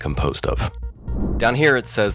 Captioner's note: air whooshes